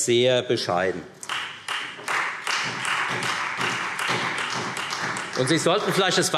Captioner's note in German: Beifall